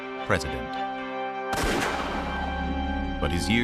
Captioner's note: gunshot